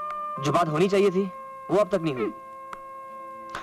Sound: scoffs

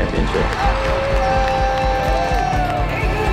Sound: family cheering

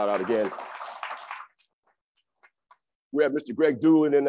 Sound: crowd applauds

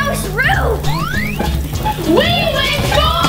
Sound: machine whistles and zaps

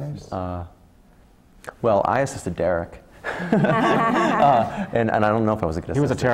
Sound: laugh

